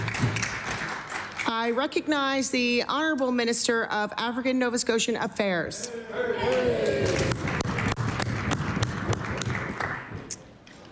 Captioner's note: applause